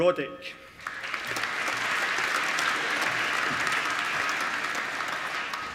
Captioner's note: applause